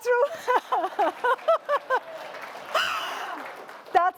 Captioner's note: laughter